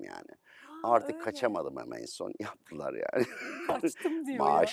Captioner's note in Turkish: kahkaha